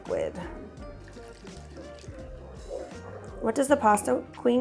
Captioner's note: water splashes